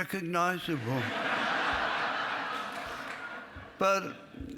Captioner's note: laughing